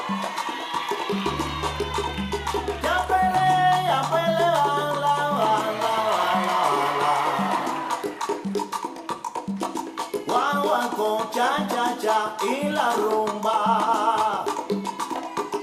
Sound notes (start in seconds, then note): 0.0 audience cheering